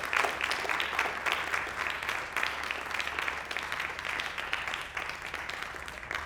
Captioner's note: applause